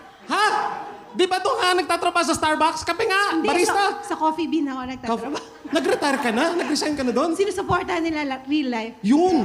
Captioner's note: applause/laughter